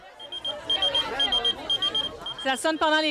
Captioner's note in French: sonnerie